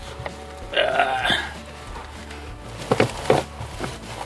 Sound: grunting

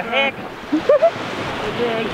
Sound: giggling

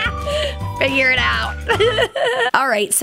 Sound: laughing

